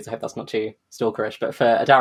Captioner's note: laughs